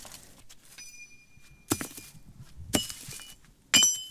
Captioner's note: stone clanging